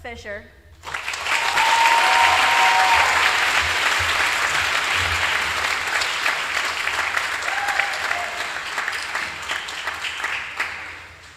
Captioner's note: applause